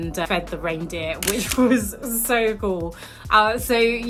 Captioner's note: camera clicks